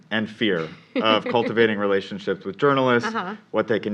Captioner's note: laugh